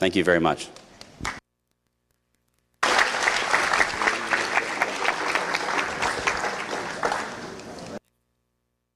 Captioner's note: applause